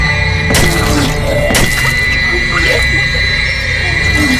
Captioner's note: Kody and Macy gagging